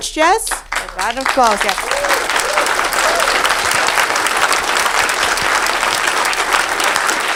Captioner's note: audience applauding